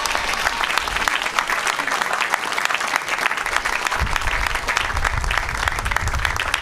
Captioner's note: applause